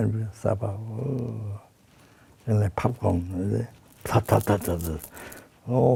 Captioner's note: popping